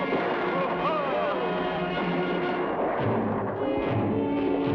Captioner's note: soldiers shout